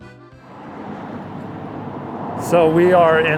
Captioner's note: wind blowing